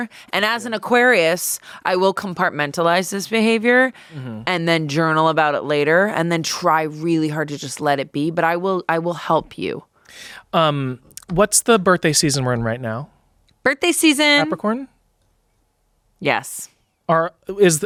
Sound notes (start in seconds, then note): none